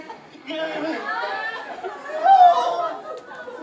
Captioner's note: scientists make panicked noises